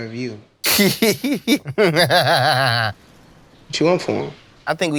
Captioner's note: laughter